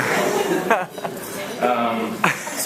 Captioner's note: laughs